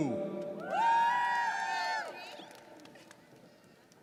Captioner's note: audience cheers